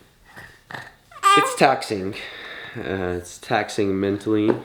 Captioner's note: coos